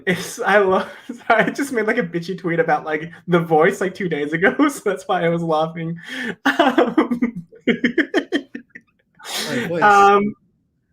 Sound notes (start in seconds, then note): 7.6 laughs